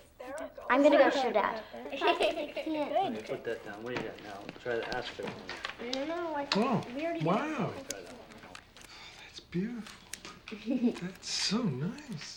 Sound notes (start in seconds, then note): 1.6 giggling; 12.1 claire laughing